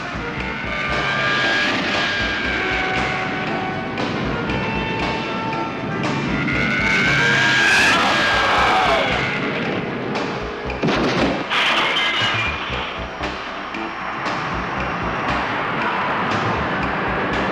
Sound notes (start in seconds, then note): 6.3 zooming; 10.5 crashing; 13.7 cheering